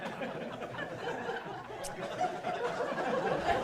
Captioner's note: laughing